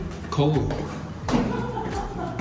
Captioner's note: laughing